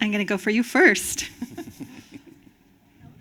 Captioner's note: chuckling